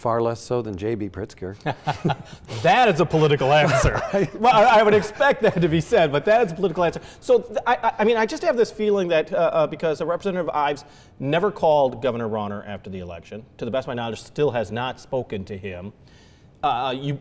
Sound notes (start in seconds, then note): 1.6 laughs; 3.9 both laugh